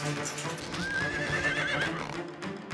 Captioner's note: horse neighs